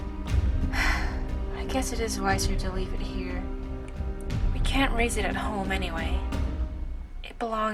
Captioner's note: sigh